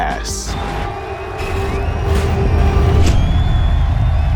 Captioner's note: exciting music; crowd cheering